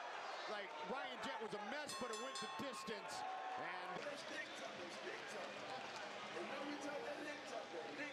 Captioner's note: cheering